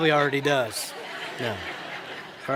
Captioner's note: laughter